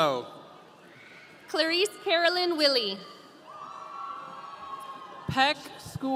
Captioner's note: audience cheering